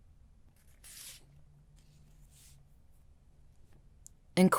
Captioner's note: page turning